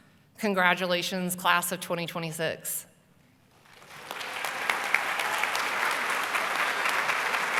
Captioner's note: applause